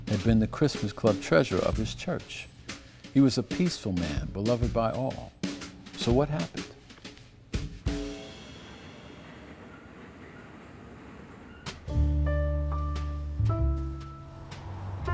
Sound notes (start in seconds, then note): 8.1 train rattling; 11.8 soft music continues; 14.9 cars passing